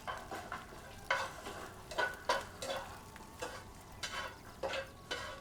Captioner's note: metal scraping pan